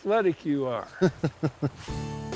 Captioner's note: laughing